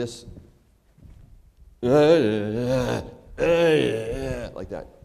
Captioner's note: groaning